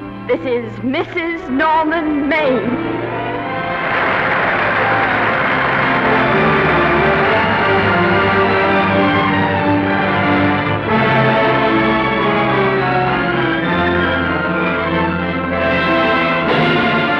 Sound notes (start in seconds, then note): 2.7 applause and cheers; 3.9 music swells